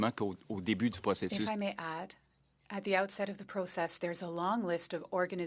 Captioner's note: speaking French